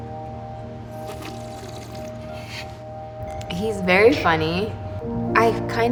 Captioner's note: slurping tea